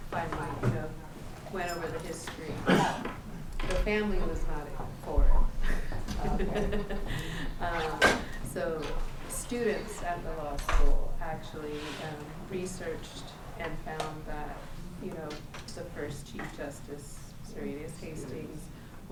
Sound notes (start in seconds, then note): 5.6 laughs